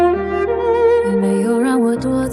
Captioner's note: Mandarin soft echo